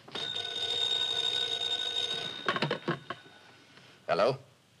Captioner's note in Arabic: رنين الهاتف